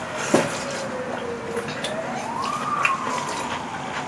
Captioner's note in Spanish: Sorbiendo